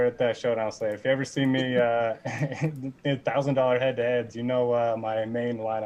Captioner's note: laughing